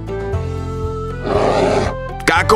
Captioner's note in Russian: Возмущённый рёв